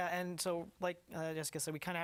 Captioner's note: speaking spanish